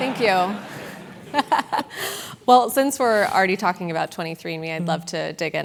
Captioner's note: laugh